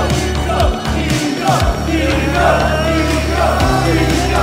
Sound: crowd

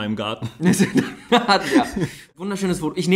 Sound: laughs

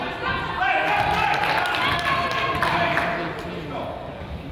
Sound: crowd applauds

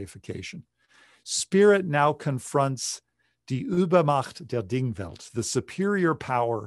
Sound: speaking german

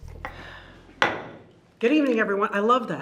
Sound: gavel knocks

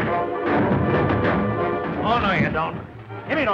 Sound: crashing sounds

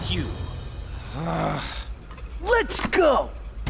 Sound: groaning

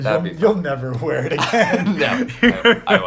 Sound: laughs

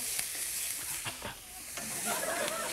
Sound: audience laughs; breathes hard; audience laughs

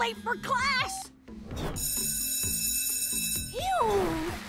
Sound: school bell rings

